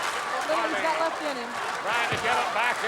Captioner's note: audience cheering and clapping